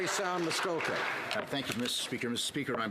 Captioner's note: some Applause